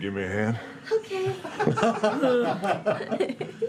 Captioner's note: breathy